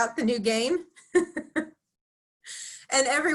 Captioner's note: laughs